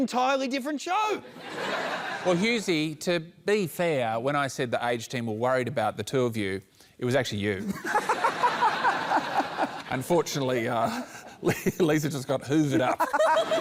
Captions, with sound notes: That's an entirely different show! [LAUGHTER] Well, Hughesy, to be fair, when I said the 'aged team', we were worried about the two of you, it was actually you. [LAUGHTER] Unfortunately, uh... ..Lisa just got hoovered up.